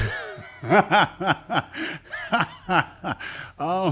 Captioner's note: laughs